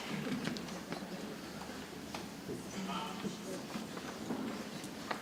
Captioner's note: people chattering softly